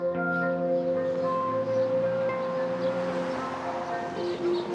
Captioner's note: enchanting music; birds chirp, engines whirr